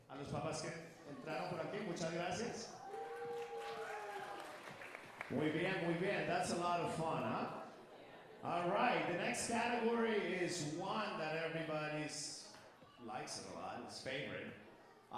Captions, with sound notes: [speaker speaking Spanish] [audience cheering and applauding] [speaker speaking Spanish] That's a lot of fun, huh? All right, the next category is one that everybody's likes it a lot, it's favorite.